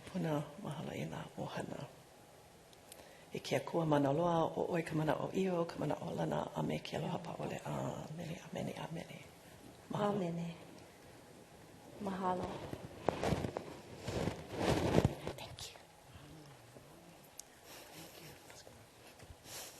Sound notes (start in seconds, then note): 4.3 speaking non-english